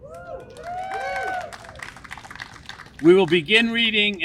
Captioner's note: audience applauds